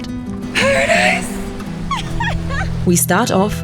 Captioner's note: laughs